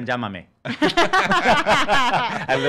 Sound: laughing

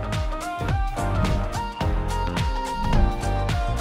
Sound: upbeat music; whooshing

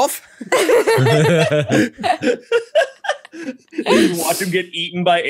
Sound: all laughing

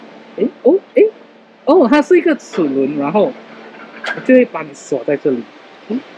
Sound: door

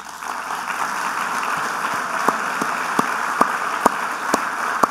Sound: audience applauding

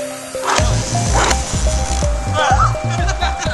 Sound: explosion

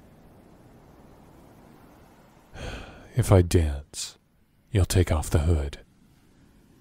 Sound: sighs

